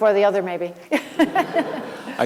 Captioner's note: laughs